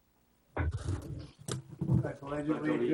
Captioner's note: chairs scraping the floor